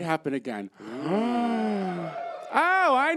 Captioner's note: gasp